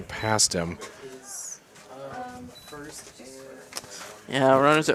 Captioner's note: indistinct chatter